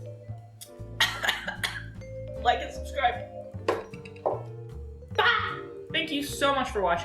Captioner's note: coughing